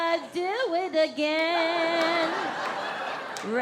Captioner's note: audience laughs